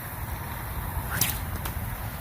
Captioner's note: sling whips; splash